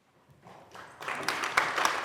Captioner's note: applause